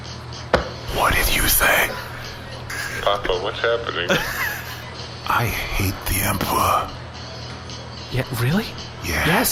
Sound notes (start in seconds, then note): 1.2 whispering even quieter; 4.0 Pleck laughs